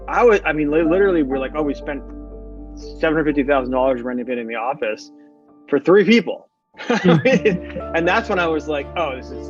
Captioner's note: laughing